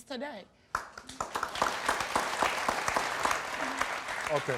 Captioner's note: audience applauds